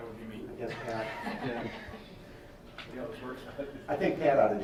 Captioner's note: laughing